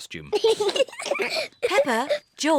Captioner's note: both laugh